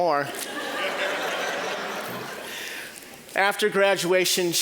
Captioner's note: audience laughing